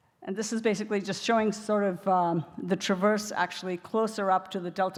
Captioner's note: none